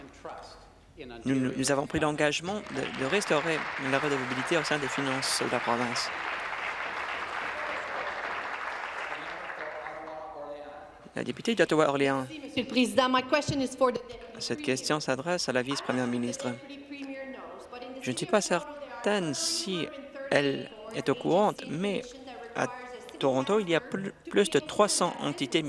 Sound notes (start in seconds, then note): 7.0 applause